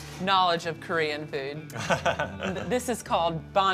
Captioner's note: laughs